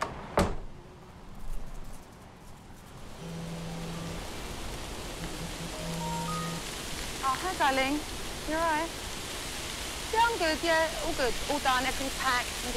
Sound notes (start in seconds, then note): 0.0 door shutting; 0.2 insect buzzing; 3.7 foliage rustling; 5.7 phone ringing